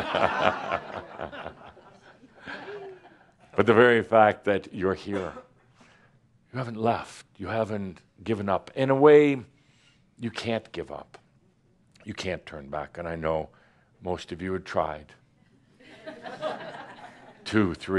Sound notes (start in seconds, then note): 0.0 laughter; 16.2 some laughter